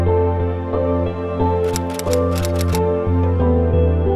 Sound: typewriter clicking

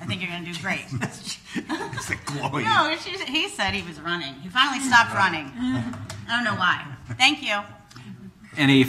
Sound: laughing

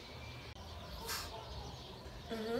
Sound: sniffs

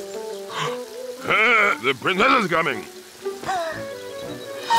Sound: gasps / clears throat; gasps

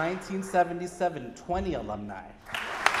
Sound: audience applauding

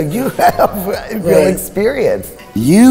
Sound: laughing

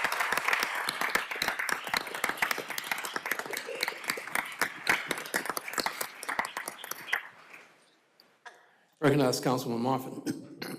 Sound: applause

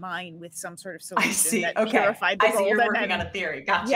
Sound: group chattering

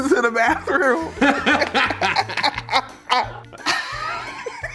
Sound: all laughing

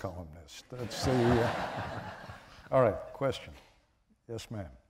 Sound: laughter

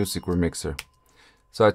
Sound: ding

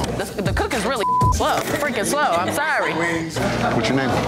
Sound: beep

